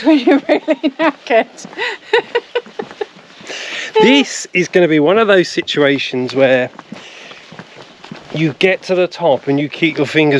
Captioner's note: laughs